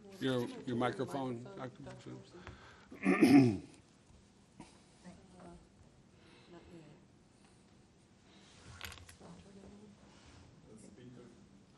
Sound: clearing throat

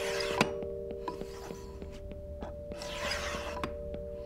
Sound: sounds of paper cutting

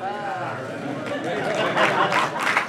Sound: applause

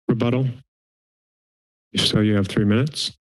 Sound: silence

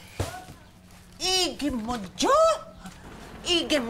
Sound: in Korean-ish

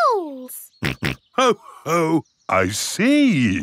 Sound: snorts

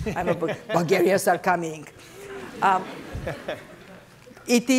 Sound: laughter; laughter

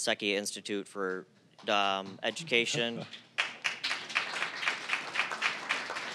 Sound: applause

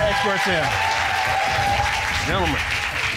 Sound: audience cheering and applauding; cheering continues

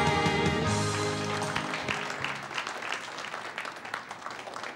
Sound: applause

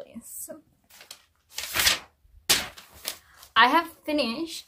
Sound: flips paper noisily

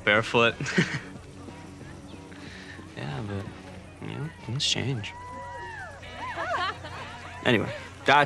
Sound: laughs

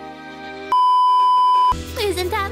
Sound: beeeeeep

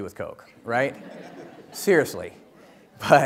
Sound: audience laughs

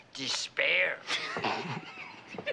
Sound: both snickering

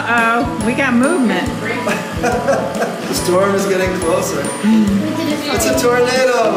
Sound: laugh

